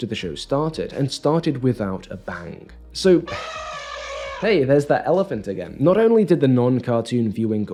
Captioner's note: elephant noise